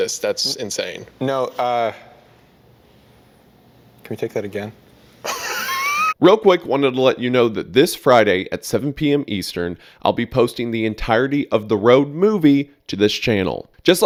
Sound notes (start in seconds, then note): 5.2 laughs